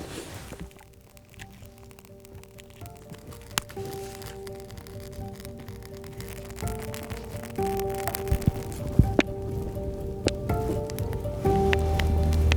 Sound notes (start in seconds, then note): 1.3 fire crackling; 3.5 subdued music